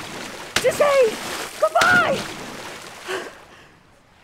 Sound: splash

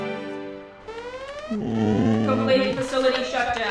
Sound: alarm blaring

